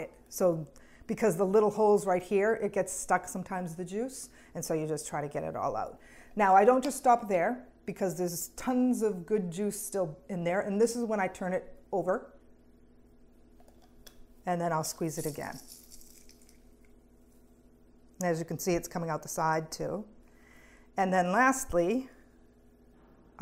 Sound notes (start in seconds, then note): 15.2 sound of juice coming out